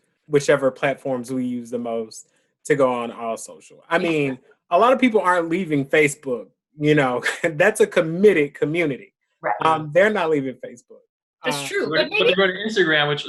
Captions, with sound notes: whichever platforms we use the most to go on AllSocial? I mean, a lot of people aren't leaving Facebook, you know? (chuckles) That's a committed community. -Yes. -Um, they're not leaving Facebook. -That's true. But maybe... -But they're on Instagram,